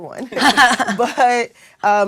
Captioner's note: laugh